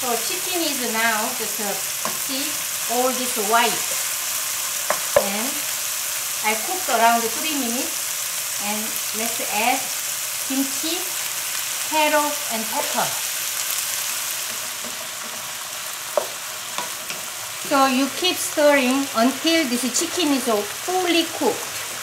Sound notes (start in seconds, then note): 14.6 oil sizzling